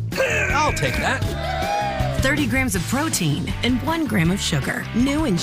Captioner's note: cheers